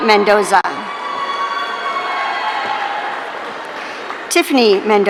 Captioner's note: audience cheering